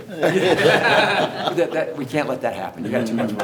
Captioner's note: everyone laughs